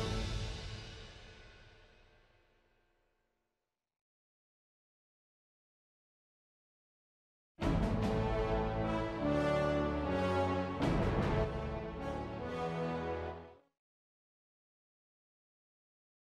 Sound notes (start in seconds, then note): none